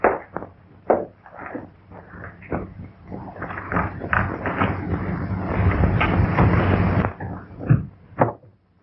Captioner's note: pounding